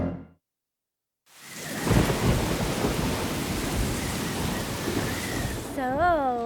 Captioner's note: thunder rumbling